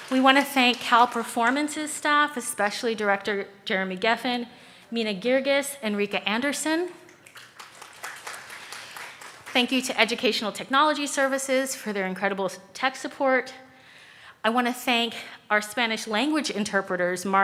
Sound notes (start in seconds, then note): 7.2 audience claps